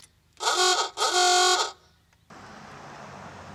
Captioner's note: honking